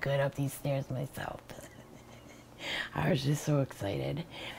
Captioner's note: laughs